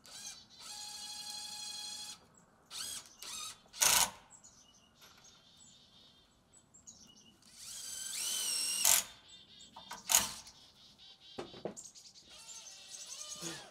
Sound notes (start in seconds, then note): 0.1 drill whirring; 7.5 drill whirring; 12.3 drill whirring; 13.5 chuckles